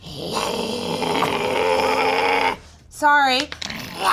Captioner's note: growls